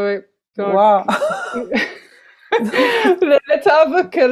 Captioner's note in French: rires